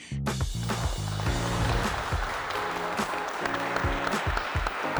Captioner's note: audience applause